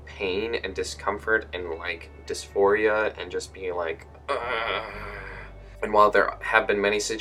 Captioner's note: uuugghhh